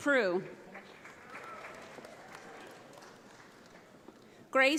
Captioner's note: audience applauds